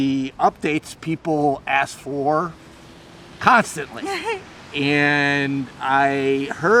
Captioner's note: laughing